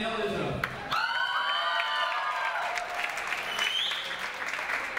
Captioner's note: audience applauds